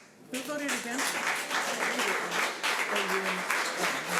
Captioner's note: audience applause